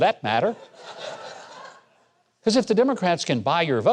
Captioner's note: crowd laughing